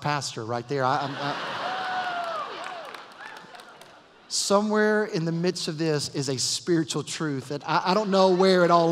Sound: laughter, cheers and applause

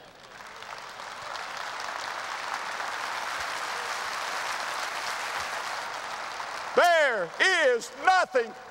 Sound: audience applause

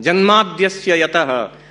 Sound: non-english

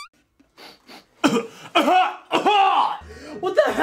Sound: puny fart; sniff; coughing

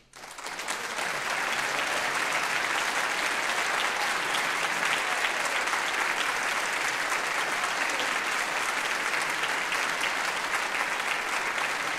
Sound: applause

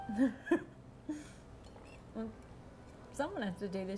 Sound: laughing

